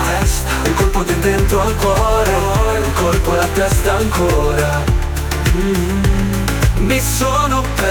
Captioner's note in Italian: mmm